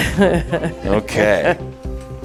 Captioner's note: laughs